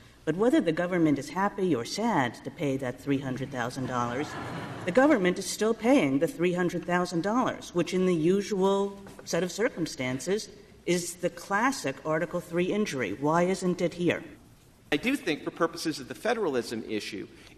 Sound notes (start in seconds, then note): 3.8 laughing